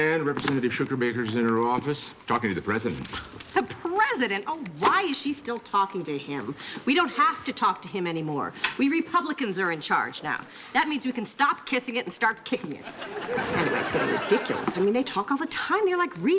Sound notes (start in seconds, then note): 3.6 scoffing